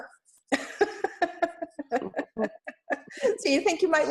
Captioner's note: laughs